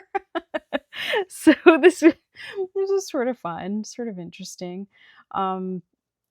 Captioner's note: laughs